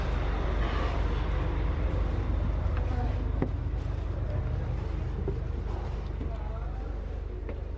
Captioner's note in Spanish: sonido escalera